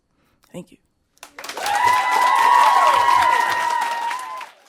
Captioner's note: audience cheering